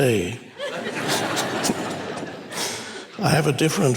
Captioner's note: congregation laughs